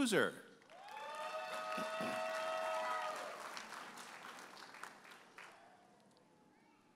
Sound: audience applauding and cheering

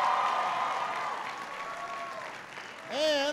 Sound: applause

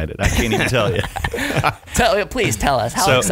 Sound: laughing

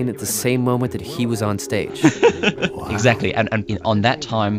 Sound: laughs

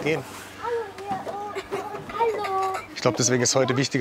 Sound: laughter

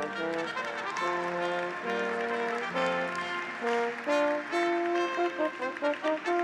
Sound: audience applauds; graduates cheer

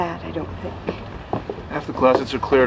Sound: footsteps

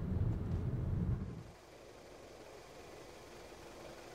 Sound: car engine

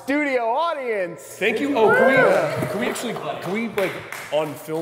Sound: applause in background

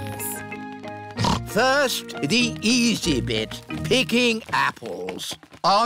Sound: snorts

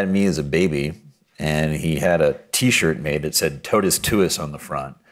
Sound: speaking Latin

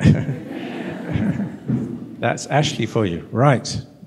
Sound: laughter

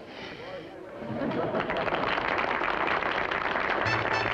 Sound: applause

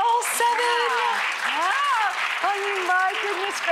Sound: audience applauds

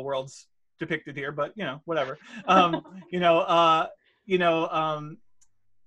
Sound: laughs

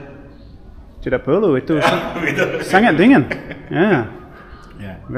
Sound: laughing

